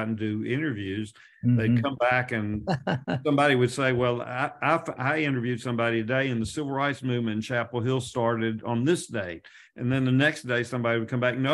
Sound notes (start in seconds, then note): 1.6 laughs